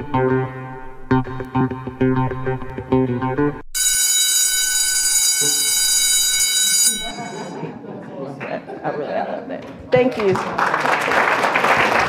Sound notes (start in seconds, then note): 3.7 bell ringing; 9.9 applause